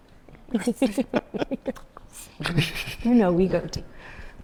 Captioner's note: panelists laughing